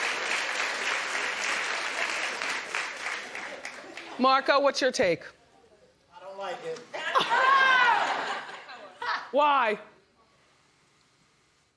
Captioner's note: applause